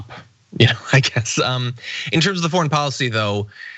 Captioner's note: laugh